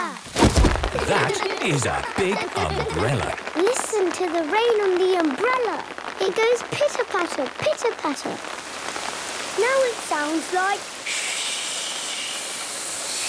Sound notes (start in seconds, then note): 0.2 big umbrella opening; 3.6 raindrops pitter-pattering; 9.7 heavy rain